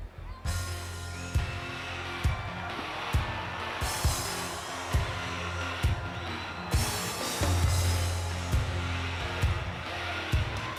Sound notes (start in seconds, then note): 0.1 audience cheering; 0.6 intense music